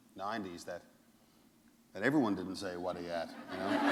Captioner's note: laughter